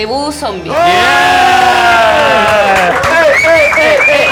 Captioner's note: cheers